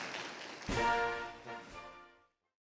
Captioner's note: applause